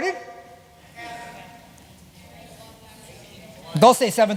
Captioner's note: chatter